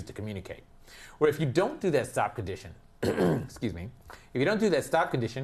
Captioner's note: cough